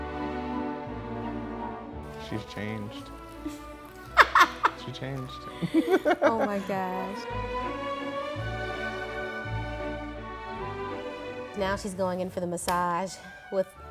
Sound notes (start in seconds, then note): 0.1 mellow orchestral music; 5.5 laughs; 7.9 mellow orchestral music